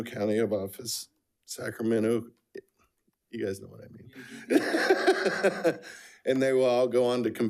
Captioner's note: laughs